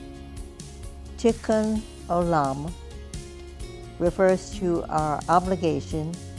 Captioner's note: speaks in foreign language